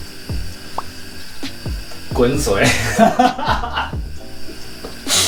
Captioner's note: in HORRIBLE Mandarin